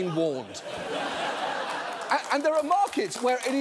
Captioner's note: audience laughs